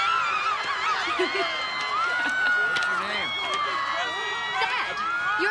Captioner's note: laughs